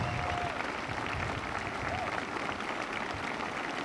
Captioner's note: applause